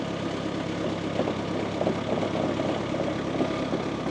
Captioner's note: machinery rumbles